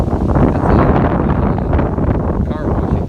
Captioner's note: blowing wind drowns out sound